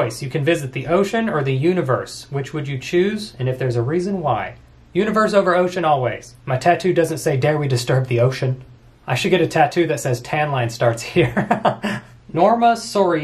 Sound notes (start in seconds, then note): 11.2 laughs